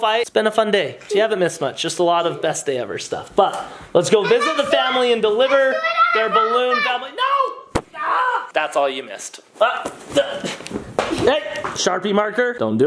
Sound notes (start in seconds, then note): 7.6 groans